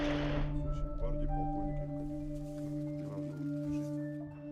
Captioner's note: speaking Russian